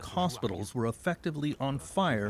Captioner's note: speaking French